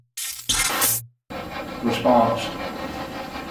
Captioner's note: electronic effect